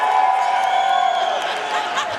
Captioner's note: audience cheering and applauding